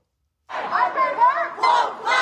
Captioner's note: chanting